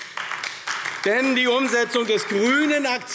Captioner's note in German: Beifall AfD